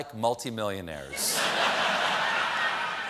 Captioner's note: laughter